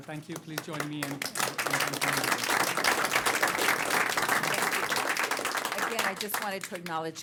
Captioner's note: applause